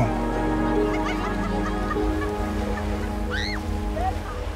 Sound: group laughing

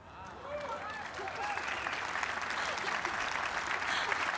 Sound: applause

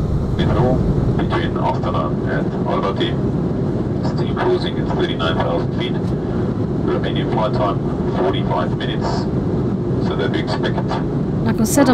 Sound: indistinct chatter

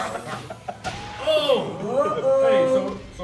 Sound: laugh

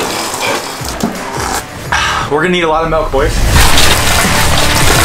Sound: slurping; milk splashing; upbeat music

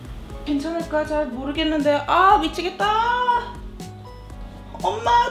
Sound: speaking in foreign language

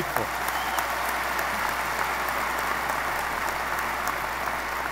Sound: audience applause

